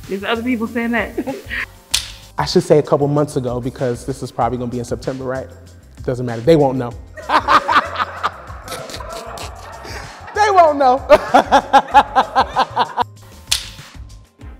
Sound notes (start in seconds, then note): 7.1 laughs; 7.3 crew laughs